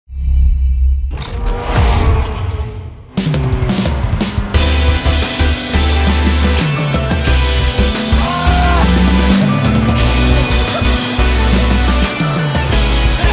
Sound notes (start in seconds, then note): 1.0 woosh; 1.7 vroom; 3.6 epic music